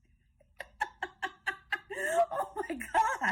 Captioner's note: laughing cackle